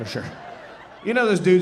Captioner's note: audience laughing